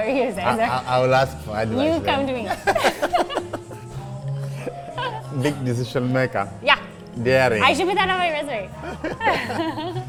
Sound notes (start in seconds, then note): 2.4 both laughing